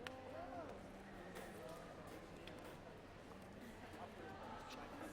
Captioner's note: background chatter